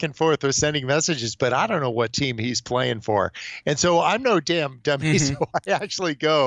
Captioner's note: chuckles